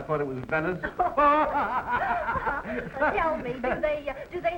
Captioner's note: Maxim and Marie laugh